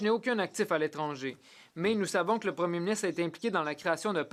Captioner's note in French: voix de l'interprète